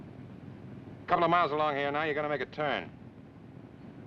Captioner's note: none